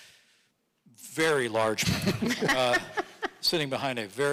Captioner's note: audience laughing